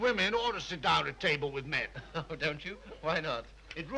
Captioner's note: chuckles